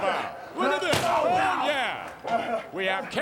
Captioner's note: trash can thuds